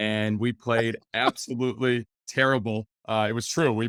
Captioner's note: laughing